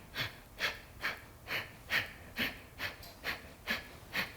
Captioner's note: inhales and exhales